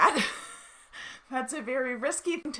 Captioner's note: laughing